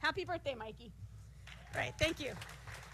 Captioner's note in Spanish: aplausos